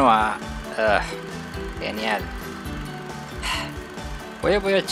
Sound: sigh

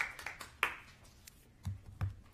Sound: applause

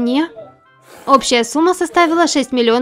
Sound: sipping noodles

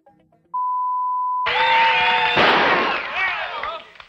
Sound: gnshot

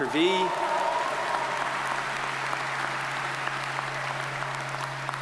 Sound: audience cheers and applauds

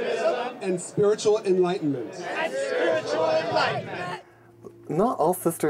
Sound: crowd

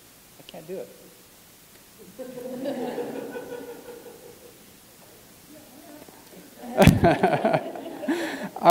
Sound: laugh

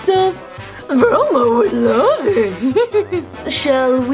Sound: laughs

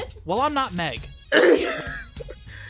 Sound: sneeze

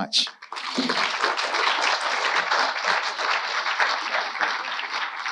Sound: audience applauding

